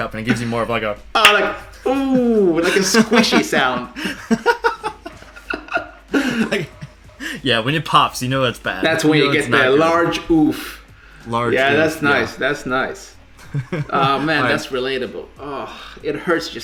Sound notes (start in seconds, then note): 1.8 both laugh